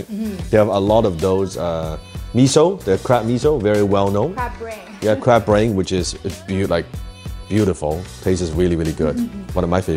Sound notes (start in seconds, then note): 5.1 laughing